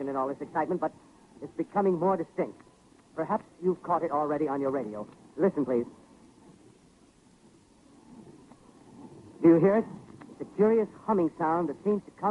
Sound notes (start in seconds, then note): 8.8 scraping sound